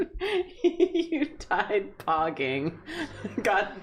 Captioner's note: giggling